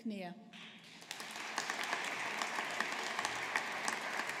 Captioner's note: audience applauding